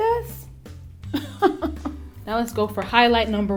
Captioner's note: laughing